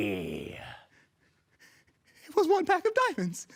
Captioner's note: heavy breathing